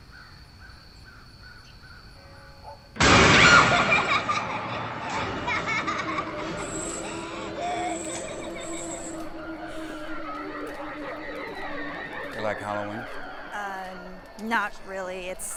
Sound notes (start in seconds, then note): 3.0 doll cackles; 4.3 air whooshing